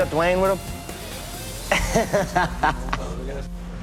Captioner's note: laughs